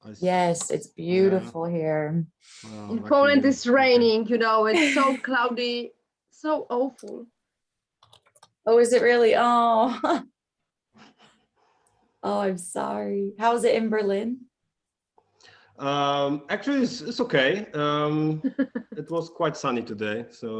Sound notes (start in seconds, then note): 9.7 laughs